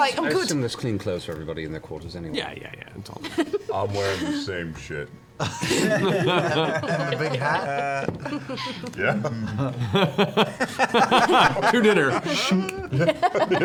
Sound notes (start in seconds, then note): 4.9 laughter; 10.8 laughing